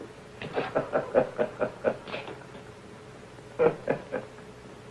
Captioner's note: Reno laughing